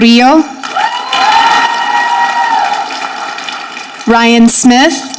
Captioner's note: audience clapping